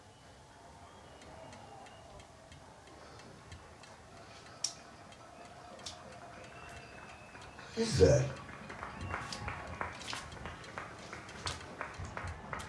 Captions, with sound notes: [distant cheering] What is that? [crowd cheering]